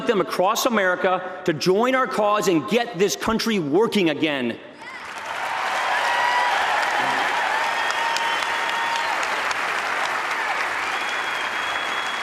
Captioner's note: applause